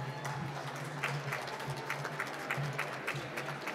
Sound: applause

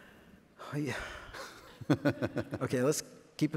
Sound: sighs

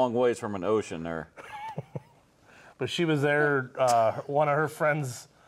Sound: laughs

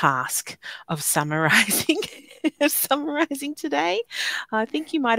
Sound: laughing

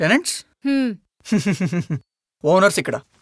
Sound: laughs

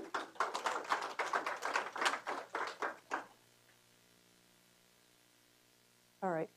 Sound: applause

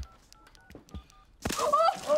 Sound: beeping

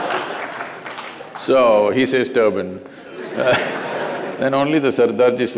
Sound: laughter; laughter

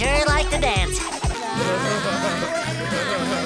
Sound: laughing

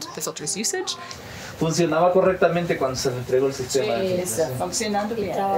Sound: speaking foreign language

